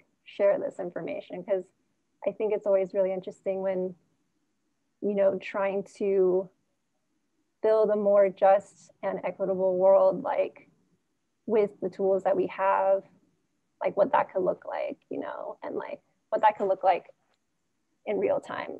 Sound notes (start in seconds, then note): none